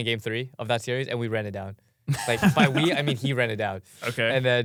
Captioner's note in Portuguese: risos